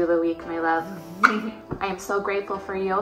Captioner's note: kisses